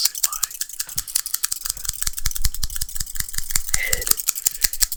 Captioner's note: shears clanking